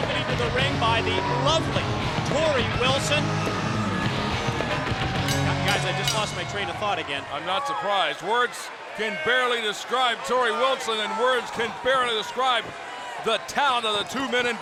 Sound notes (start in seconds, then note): 5.2 bell ringing